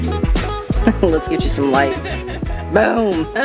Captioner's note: laughs